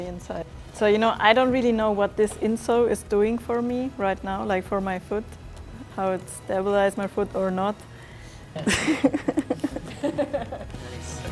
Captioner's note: laughing